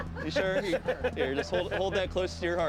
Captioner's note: laughter